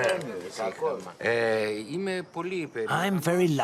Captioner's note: speaking in foreign language